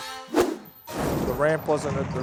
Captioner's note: fire swooshes